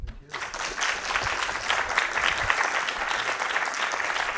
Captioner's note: audience clapping